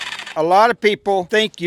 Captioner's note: saw sounds